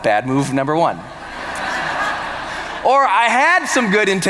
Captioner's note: laughter